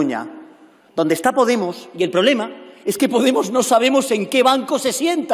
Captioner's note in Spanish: none